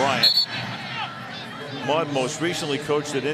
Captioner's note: whistle